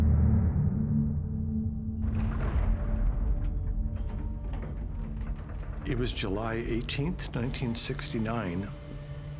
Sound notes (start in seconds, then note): 2.1 doors opening